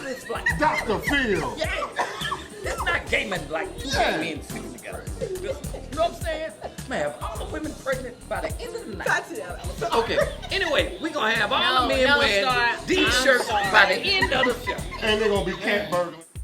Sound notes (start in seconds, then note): 8.7 laughing